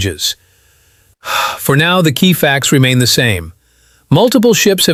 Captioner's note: exhales